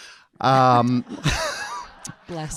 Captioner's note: audience laughing